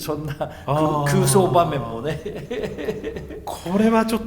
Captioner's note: laugh